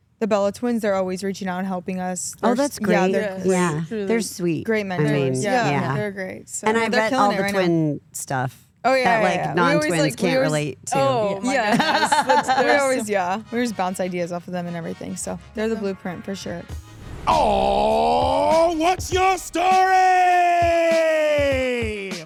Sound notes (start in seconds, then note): 11.6 laughs; 19.8 upbeat hip-hop music